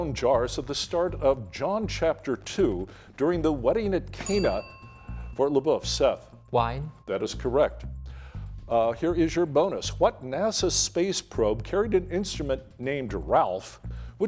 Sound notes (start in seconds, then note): 4.1 bell dinging